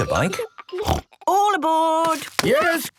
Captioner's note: snort